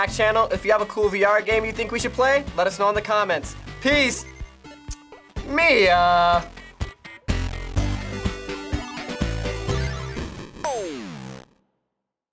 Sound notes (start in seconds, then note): 4.3 tsks; 6.7 upbeat video game music